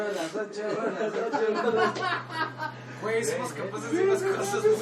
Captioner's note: laughs